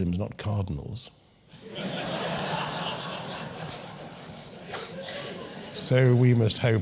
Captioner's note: laugh